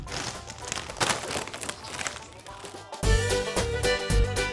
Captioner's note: packet crinkling; upbeat music